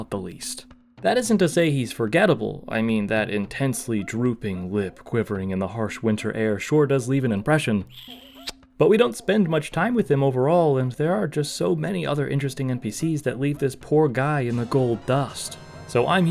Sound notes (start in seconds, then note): 8.2 kiss sound